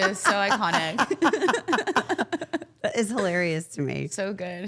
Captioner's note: all laughing